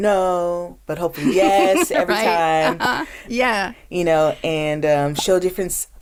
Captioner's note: laughs